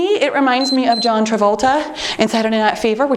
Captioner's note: timer beeps